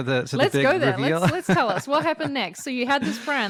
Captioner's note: laughs